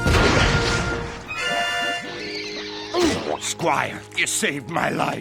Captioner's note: crashing